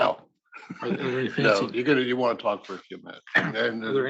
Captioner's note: laugh